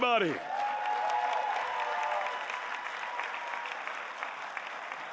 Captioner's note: cheering